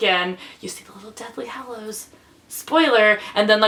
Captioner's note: whispers